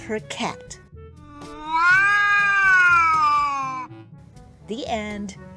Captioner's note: cat yowls